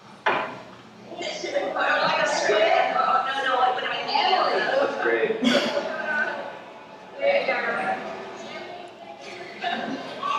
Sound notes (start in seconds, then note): 0.7 indistinct cheerful conversation